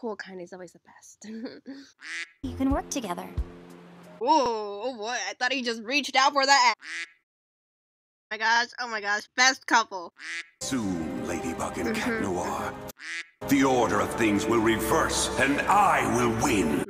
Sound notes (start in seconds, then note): 2.0 quack; 6.8 quack; 10.2 quack; 12.9 quack